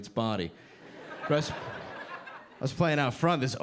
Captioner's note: audience laughing